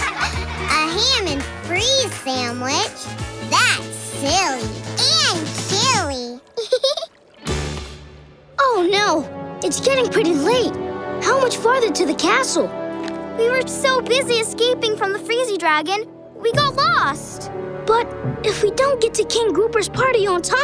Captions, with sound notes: A ham and freeze sandwich? That's silly. And chilly! [giggling] Oh no, it's getting pretty late. How much farther to the castle? We were so busy escaping from the freezy dragon, we got lost. But if we don't get to King Grouper's party on time,